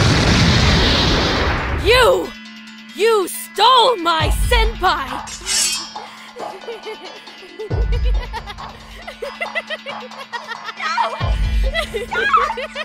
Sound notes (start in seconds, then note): 6.0 malicious Laughter